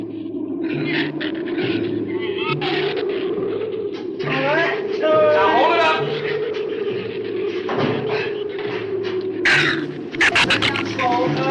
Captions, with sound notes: (wind howls) (shrews chatter) All right! - Now, hold it up! (shrew snarls) Put it down slow. - All right!